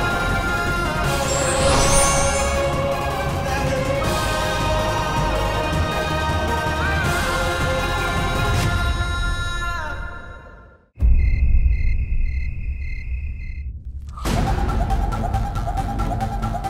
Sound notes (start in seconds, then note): 11.0 crickets chirping